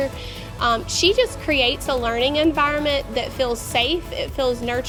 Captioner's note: none